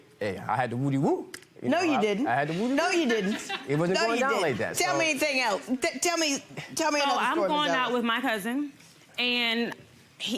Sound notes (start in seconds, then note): 5.3 audience laughing